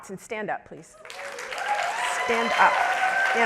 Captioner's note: audience cheering